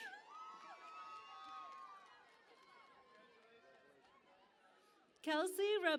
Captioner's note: cheering and Applause